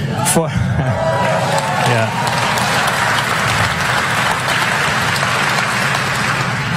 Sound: applause

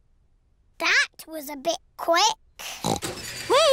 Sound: oinks

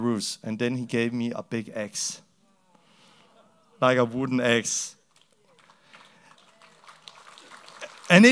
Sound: applause

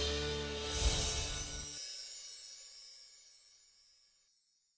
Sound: bells chime

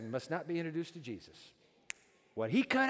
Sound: snaps fingers

